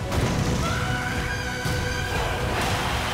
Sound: screams; cheering

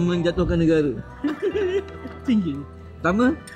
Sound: laugh

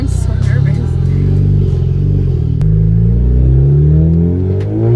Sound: engine revving

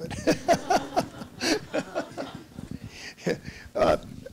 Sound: everyone laughs

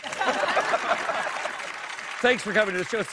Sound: laughter

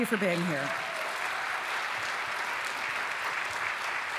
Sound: applause

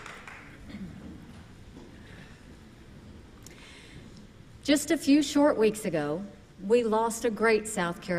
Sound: applause

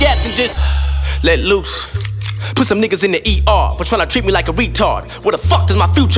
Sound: ahh

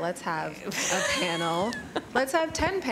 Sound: laughter

